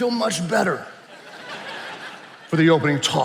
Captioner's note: attendees laughing